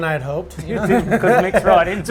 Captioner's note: laughs